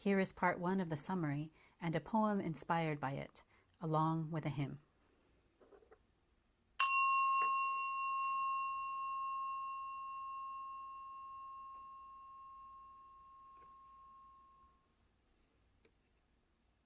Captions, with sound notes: Here is part on of the summary and a poem inspired by it, along with a hymn. (bell)